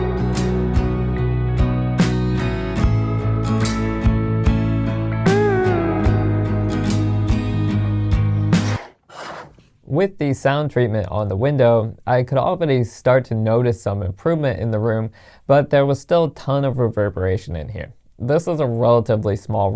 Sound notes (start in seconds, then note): 8.6 blinds closing, music stops